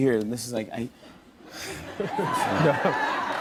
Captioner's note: cheers and applause